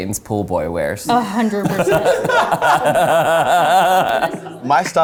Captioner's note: all laughing